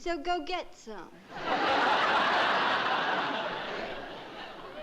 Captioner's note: laughter